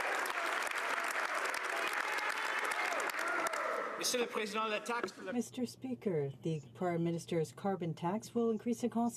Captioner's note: some Applause